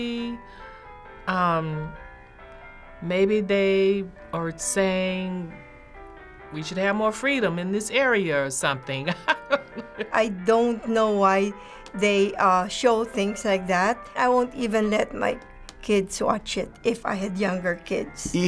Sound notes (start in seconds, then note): 9.1 chuckles